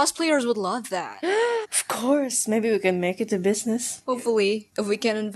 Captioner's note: le gasp